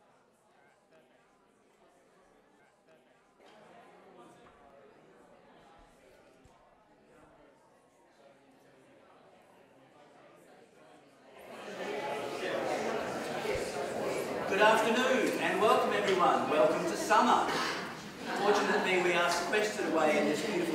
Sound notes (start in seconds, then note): 11.5 crowd chattering